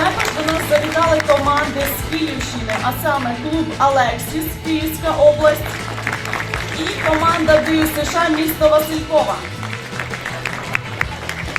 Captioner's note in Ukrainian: оплески